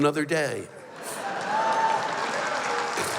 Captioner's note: cheers